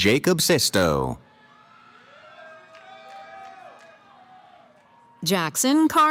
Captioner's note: cheering